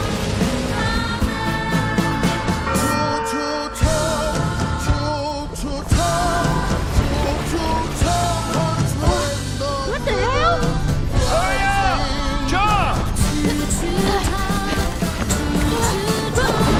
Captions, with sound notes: [bell pealing] [bluesy song playing] What the hell! Hurry up! Jump!